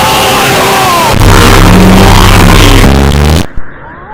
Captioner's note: Time Freeze Field goes BRRRRRRRRRRRRRRRRRRRRRRRRR